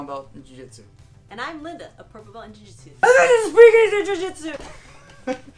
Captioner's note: shouting; laughter